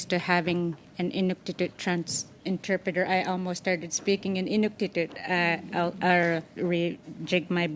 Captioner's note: speaking French